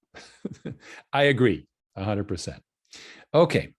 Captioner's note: laughs